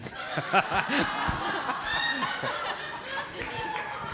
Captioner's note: audience laughing